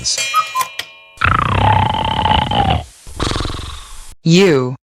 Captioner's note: snoring